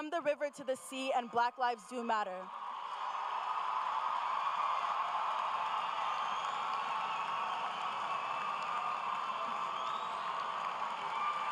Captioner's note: cheers and applause